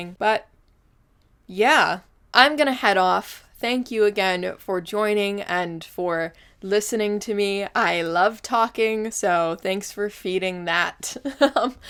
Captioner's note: laughs